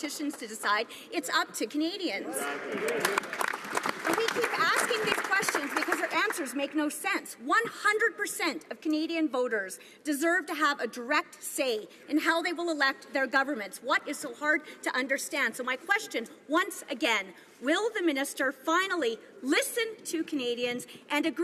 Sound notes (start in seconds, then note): 6.5 some Applause